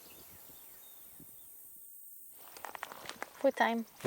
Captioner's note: crickets chirping